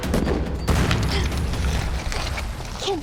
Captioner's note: explosion